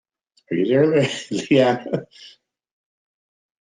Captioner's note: laughs